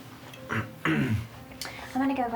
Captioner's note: clears throat